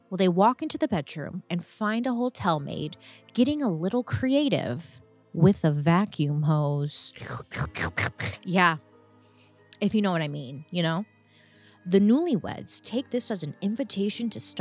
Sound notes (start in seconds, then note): 7.2 imitates slurping